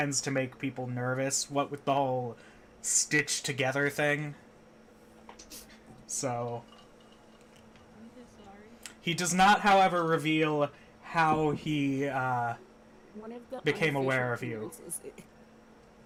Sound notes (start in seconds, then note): 14.5 laughing